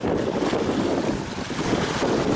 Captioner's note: water/ocean/sea sounds